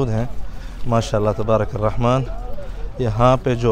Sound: Arabic

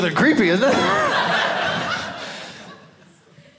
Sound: audience laughing

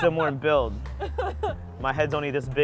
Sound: laughs

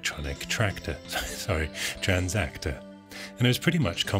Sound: chuckling

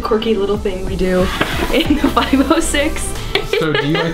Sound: laughing

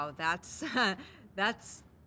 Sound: chuckles

